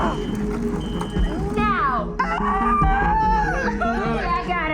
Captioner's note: Louisa screams